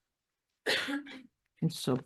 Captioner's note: person coughing